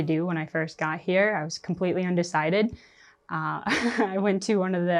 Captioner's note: chuckles